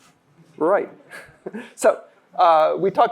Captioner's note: chuckling; laughter